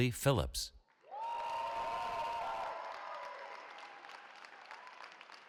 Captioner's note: cheering